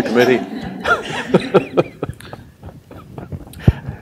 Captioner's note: laughs